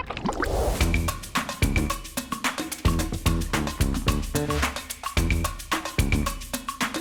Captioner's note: liquid bubbling; upbeat music